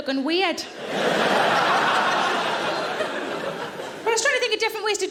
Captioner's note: audience laughing